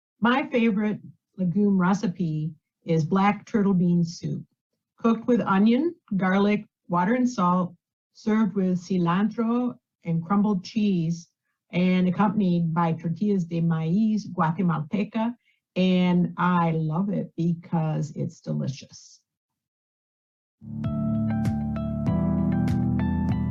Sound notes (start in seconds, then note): 13.8 speaks in foreign language; 20.6 upbeat music